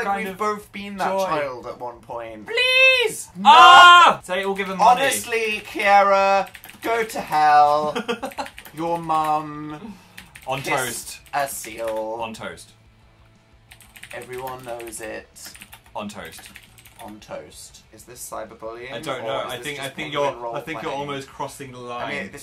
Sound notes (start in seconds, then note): 7.6 laughs